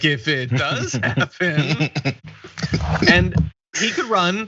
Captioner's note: laugh